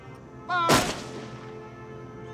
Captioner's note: gunshots